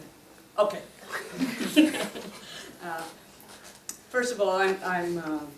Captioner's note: laugh